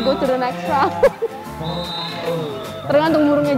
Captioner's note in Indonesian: Ketawa